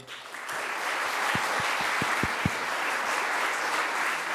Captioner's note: audience applauding